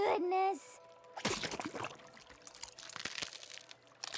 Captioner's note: splat!; crackling